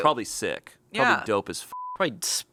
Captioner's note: beep